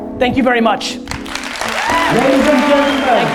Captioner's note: audience applause